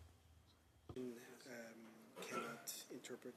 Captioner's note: speaking French